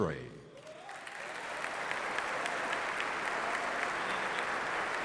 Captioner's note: cheers and applause